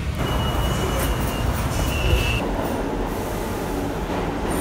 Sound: subway train arriving

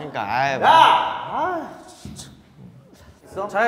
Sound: crying

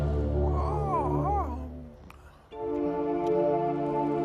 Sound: מוזיקה מתוחה; רופרט מפהק; מוזיקה מהורהרת

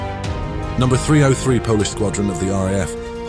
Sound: Polish

